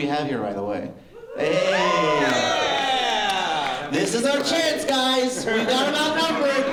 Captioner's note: cheering; laughter